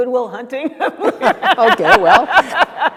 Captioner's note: laughs